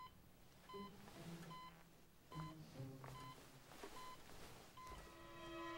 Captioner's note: medical equipment beeping